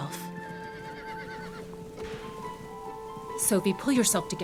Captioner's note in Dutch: paard hinnikt